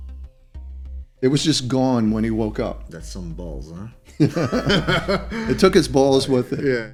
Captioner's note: laughter